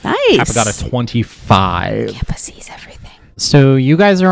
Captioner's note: whispering